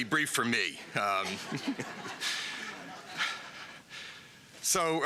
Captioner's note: laughter